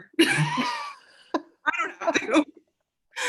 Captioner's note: laughter